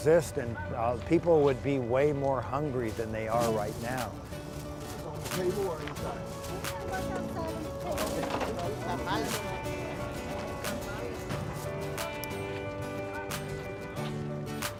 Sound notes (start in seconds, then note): 4.6 bags rattle; 5.5 upbeat electronic music